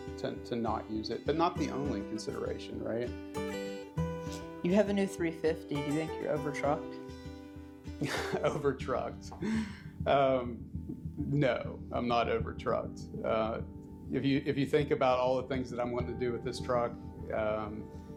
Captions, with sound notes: to not use a WDH. But not the only consideration. You have an F350 now, do you think you are over-trucked? (laugh) over-trucked um...no I'm not over trucked. I you think about everything I'm going to do with this truck.